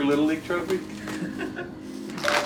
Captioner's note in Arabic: ضحك